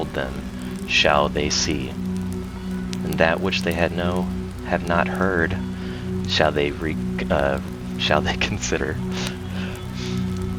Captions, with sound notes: Then shall they see that which they had not heard. shall they consider [laughs]